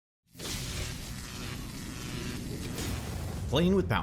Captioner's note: electricity crackling and buzzing